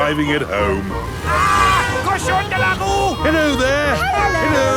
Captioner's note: yells